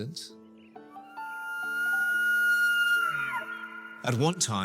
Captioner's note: elk bugling